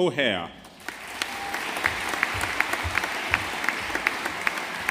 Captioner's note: audience applauding